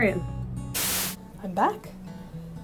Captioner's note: static